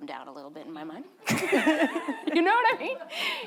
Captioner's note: both laughing